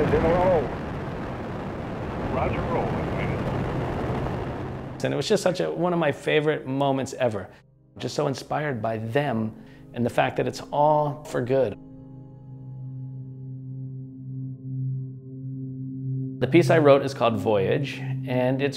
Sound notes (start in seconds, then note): 4.1 spaceship engine sounds fade out